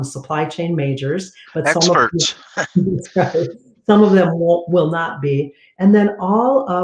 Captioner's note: laughter